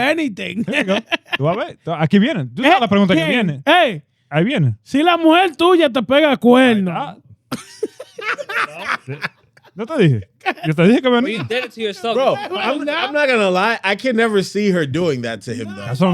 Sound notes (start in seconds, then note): 0.6 laughing; 0.6 speaking In Foreign Language